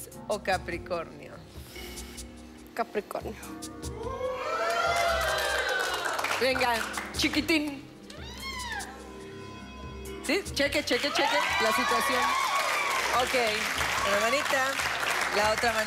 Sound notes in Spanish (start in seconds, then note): 6.1 Exclamaciones